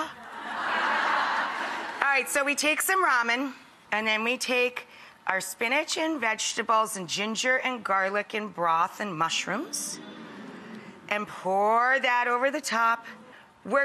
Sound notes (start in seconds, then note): 0.2 laughs; 0.2 audience laughs; 9.9 audience humming